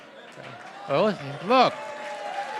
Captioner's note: applause